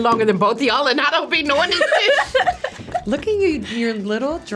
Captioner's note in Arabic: يضحك